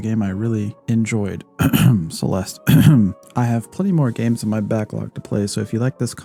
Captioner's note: ahem